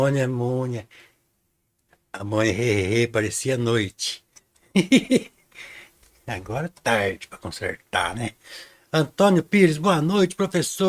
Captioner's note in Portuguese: risadas